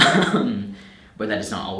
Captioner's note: chuckles